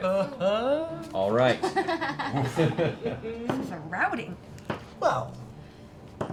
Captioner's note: laughter